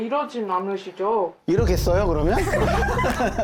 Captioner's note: exploding sound effect